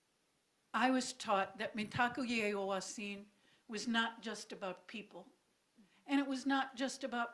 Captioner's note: speaking own language